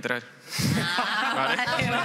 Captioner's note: laughter